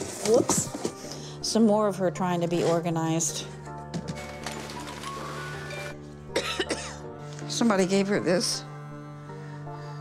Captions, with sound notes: Oops. Some more of her trying to be organized. (coughs) Somebody gave her this.